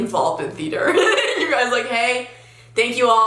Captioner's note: laughs